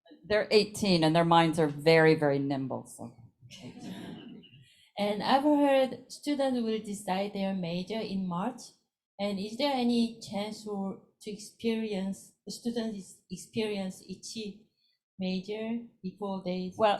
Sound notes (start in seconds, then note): 3.6 crowd laughs